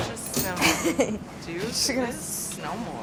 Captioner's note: laughs